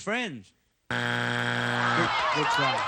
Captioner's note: buzzer